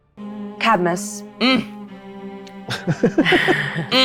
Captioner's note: grunting; players giggling; grunting